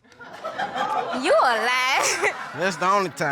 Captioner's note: chuckling